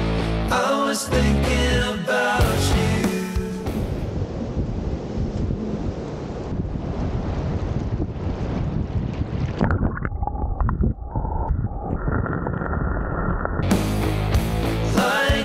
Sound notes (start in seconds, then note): 3.7 waves; 13.6 loud indie music